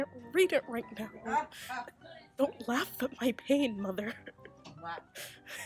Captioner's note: laughter